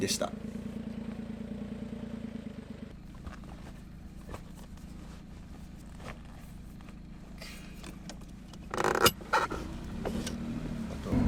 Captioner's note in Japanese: エンジン音